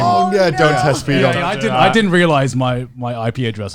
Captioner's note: group groaning